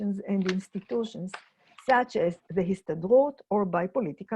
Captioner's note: in foreign language